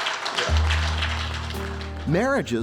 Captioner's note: applause